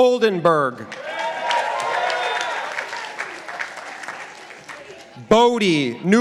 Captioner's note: participants applauding